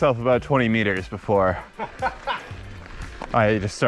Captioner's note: laughs